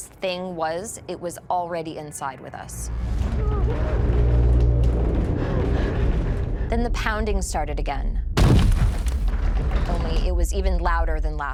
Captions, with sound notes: it was already inside with us. Then the pounding started again. [pounding] Only it was even louder than last time.